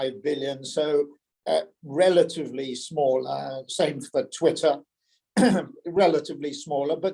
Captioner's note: cough